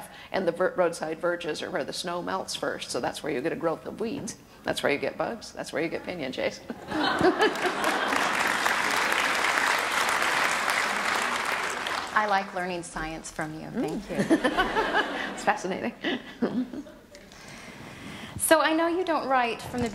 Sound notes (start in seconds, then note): 7.0 audience applause; 15.9 laughs